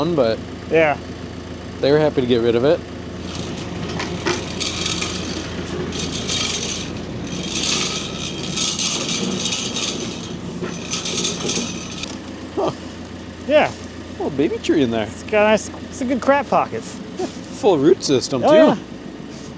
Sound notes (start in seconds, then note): 3.8 saw rumbles